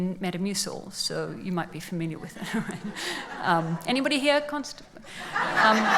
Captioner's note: laughs